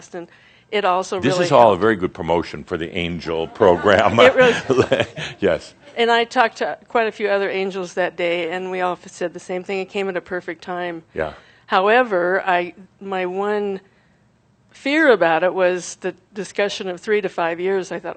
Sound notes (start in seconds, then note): 4.2 some chuckles; 6.0 chuckling